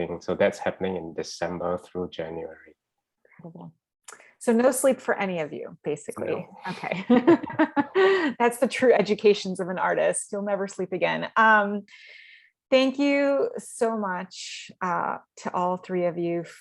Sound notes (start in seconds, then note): 6.2 laughing